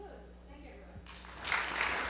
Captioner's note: audience applause